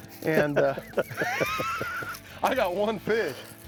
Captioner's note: laughing